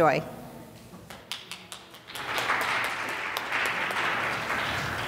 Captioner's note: audience applauds